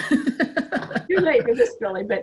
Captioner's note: laughs